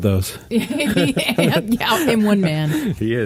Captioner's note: they laugh